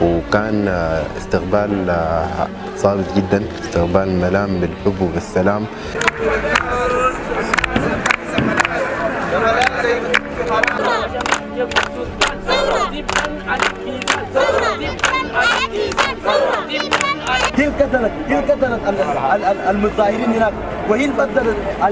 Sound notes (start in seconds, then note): 5.0 revolutionaries marshing,chanting & applauding; 6.6 chanting